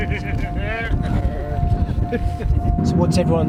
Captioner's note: laughs